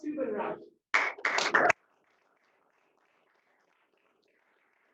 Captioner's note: applause